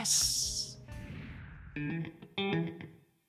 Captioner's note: air whooshing; electric guitar playing